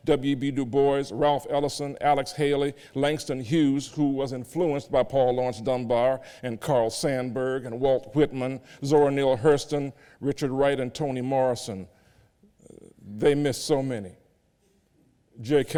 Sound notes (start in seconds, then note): none